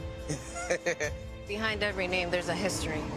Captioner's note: person laughing